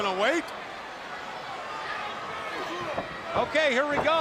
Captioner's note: crowd chatter